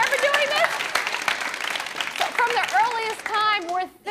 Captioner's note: applause